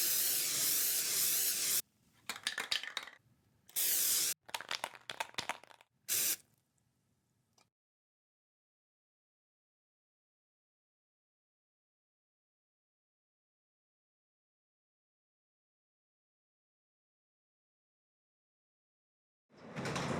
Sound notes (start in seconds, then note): 0.0 spray can spraying; 3.7 spray can shaking; 3.7 spray can spraying